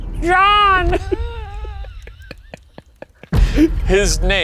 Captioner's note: both laughing